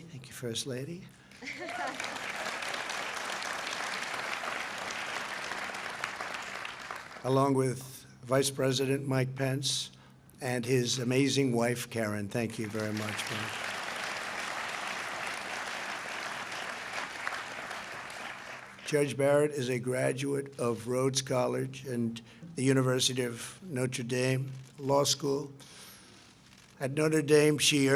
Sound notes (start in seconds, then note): 10.3 applause; 23.3 applause